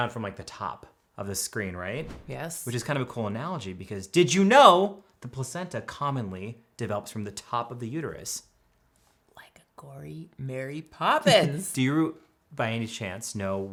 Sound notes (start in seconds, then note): 11.2 chuckles